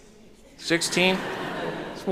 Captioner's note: chuckles